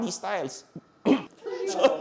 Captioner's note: coughs